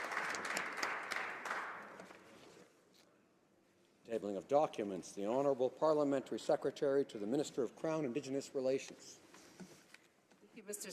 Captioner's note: applause